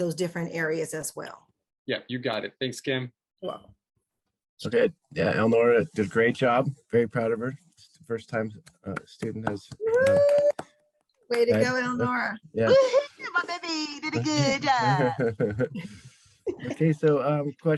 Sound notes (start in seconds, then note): 9.8 cheers